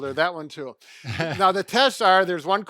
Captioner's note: chuckling